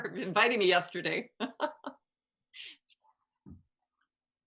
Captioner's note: chuckles